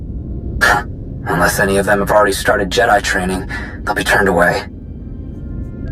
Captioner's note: snorting